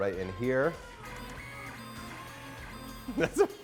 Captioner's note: electronic whirring